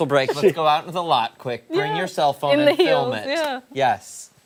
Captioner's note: laughter